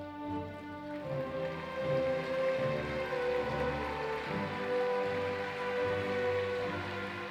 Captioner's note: applause